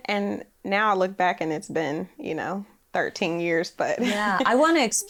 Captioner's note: laughs